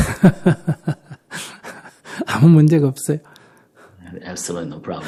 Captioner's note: laughter